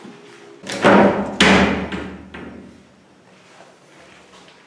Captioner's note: doors slam